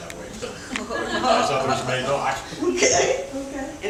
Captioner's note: laughter